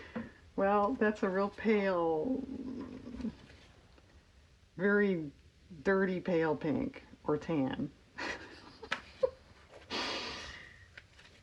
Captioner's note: laughs